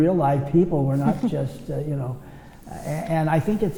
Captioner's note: laughs